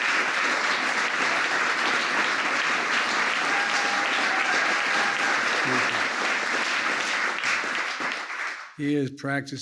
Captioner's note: applause